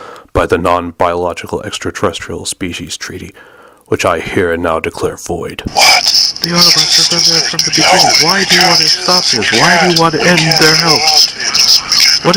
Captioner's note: random yelling